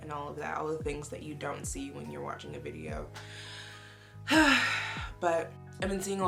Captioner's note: sighs